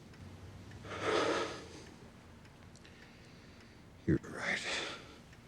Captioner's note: sighs